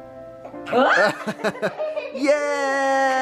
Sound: laughter

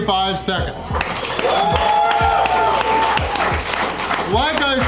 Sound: crowd clapping and cheering

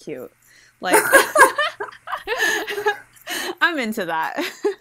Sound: hosts laugh

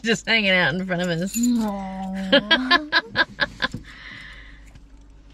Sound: chuckling; laughs

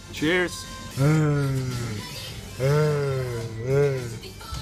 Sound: whale noises

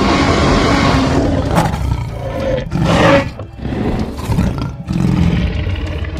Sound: loud growling

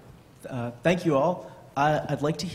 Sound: voiceover

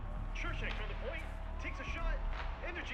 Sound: radio

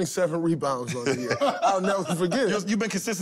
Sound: laughter

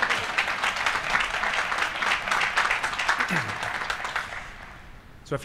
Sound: applause

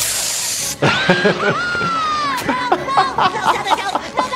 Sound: SpongeBob screams

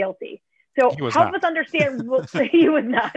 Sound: laughter

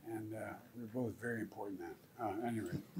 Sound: laughs

